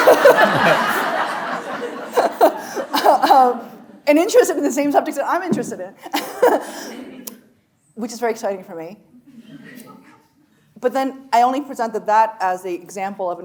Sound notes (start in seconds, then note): 0.0 chuckling; 0.0 audience laughing; 6.4 chuckles